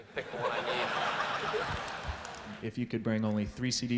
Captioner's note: laughter